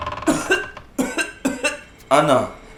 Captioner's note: severe cough